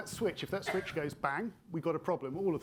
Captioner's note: attendee coughing